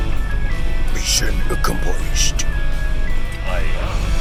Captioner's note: in Finglish accent